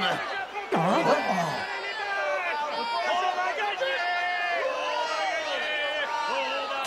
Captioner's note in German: beifall